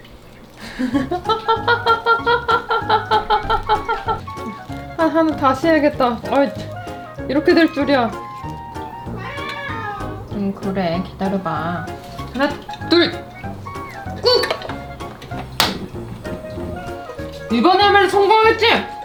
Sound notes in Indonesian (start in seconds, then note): 0.5 tertawa